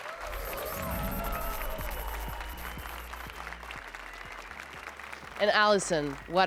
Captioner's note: applause and cheers